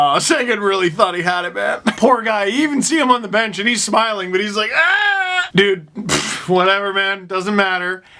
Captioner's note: groan